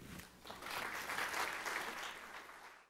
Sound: audience clapping

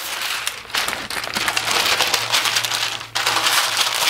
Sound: paper rustling

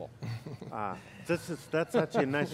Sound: chuckles

